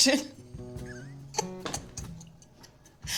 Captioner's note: laughing